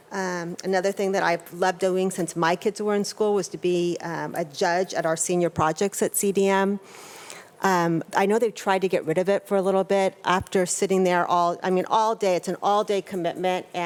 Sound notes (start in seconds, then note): none